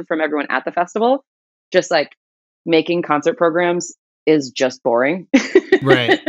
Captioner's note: laughter